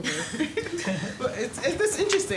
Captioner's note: laughter